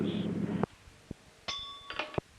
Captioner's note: bell Sound